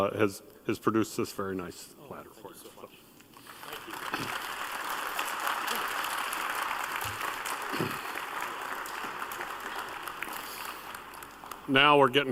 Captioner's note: applause